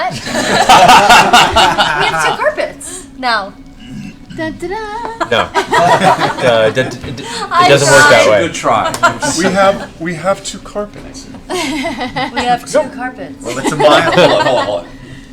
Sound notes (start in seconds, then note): 0.0 laughter; 5.2 laughter